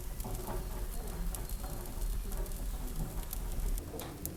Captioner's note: cooking sound